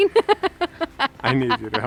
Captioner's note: laughs